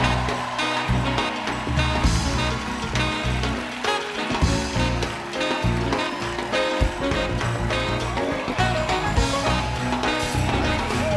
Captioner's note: applause